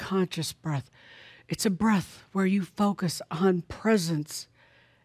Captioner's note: none